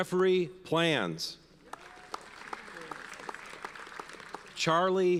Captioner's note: audience applauds